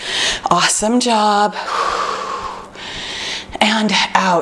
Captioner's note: exhales